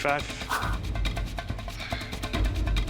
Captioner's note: sighs